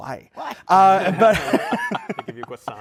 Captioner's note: laughter